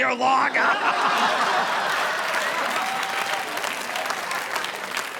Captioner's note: audience laughing